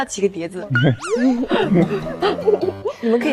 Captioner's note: laughing